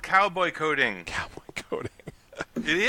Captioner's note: laughing